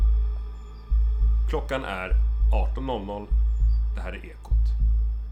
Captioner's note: radio voice